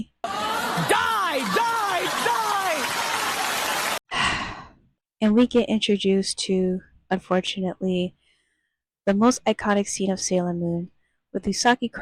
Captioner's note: sighs